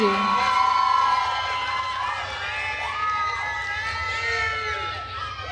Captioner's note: attendees cheering and applauding